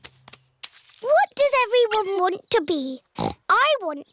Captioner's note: snorts